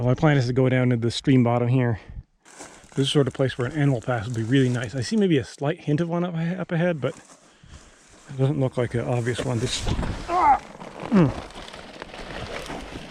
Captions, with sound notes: My plan is to go down to the stream bottom here. This is the sort of place where an animal path would be really nice. I see maybe a slight hint of one up ahead, but it doesn't look like an obvious one. (air whooshing) (man groaning) (leaves rustling)